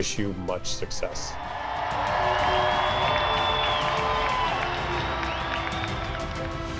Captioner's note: upbeat music; audience cheers